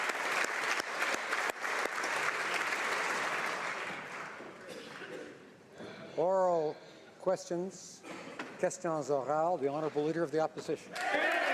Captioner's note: speaking French